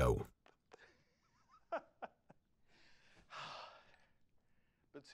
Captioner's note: Carl laughing